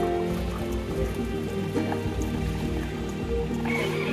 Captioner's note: relaxing music; water running